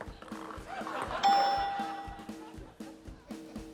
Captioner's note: quirky music; ding!